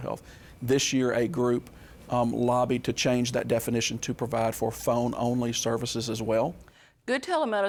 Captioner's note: none